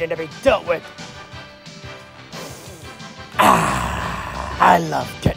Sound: big Sniff

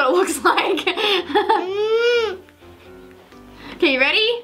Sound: chuckles

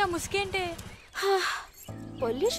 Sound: sighs

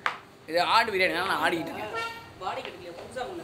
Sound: craks a joke in tamil

